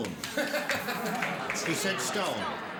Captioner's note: laughter